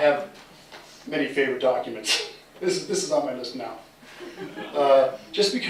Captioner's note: laughter